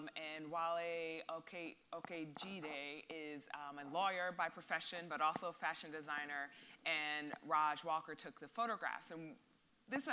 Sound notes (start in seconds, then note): none